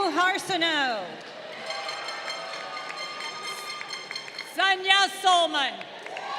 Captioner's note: horn blowing; crowd cheering